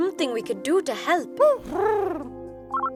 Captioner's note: Huti hoots; phone rings